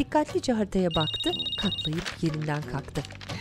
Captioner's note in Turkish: Telefon zili sesi